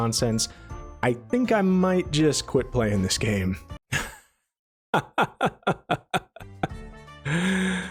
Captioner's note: laughs in despair